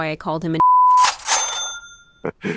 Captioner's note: venmo 'money received' sound